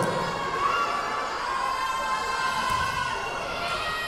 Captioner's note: yelling